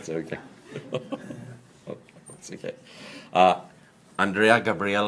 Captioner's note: laughs